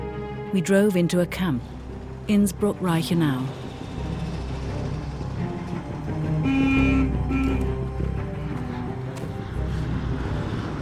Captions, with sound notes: We drove into a camp, Innsbruck Reichenau. (suspenseful music) (horn honks)